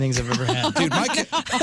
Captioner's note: laughing